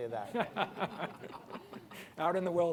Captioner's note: laughter